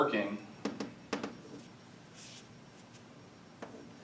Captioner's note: chalk tapping